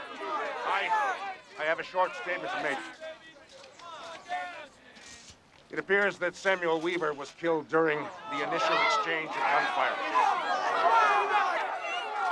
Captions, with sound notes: I--I HAVE A SHORT STATEMENT TO MAKE. IT APPEARS THAT SAMUEL WEAVER WAS KILLED DURING THE INITIAL EXCHANGE OF GUNFIRE. [crowd grumbling]